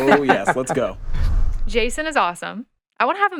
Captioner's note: podcasters laughing; screen whooshing